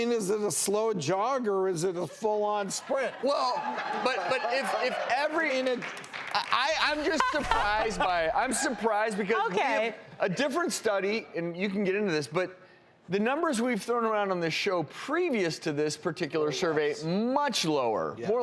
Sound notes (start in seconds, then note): 3.6 laughing and cheering